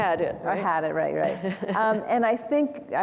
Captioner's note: chuckles